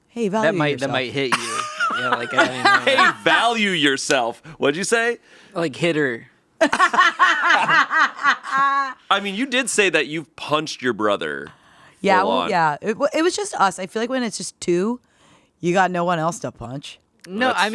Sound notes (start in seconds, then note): 1.3 laughing; 6.6 laughing